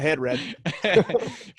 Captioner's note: laughing